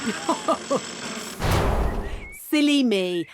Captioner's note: chuckles